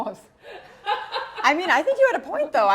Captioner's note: laughs